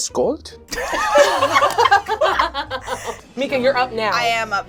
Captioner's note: all laugh